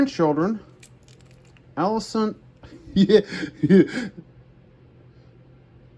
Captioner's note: giggles